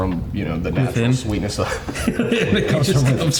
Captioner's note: chuckles